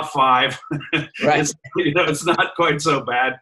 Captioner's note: laughs